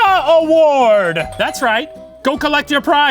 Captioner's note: doorbell ringing